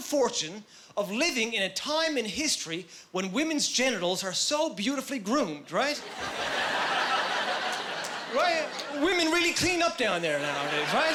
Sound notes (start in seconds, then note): 6.0 laughing